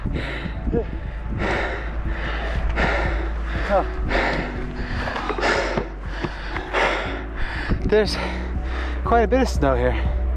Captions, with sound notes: (heavy breathing) There's quite a bit of snow here.